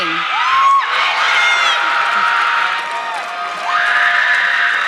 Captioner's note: audience clapping